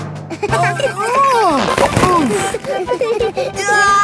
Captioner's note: giggling; grunting; giggling